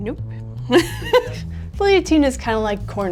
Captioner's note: laughs